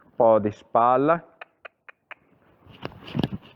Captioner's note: cluck